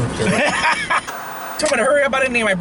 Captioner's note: laughing